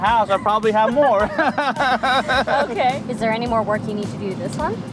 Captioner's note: laughs